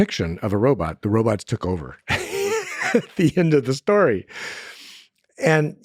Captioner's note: laughs